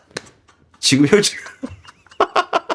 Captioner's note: laughs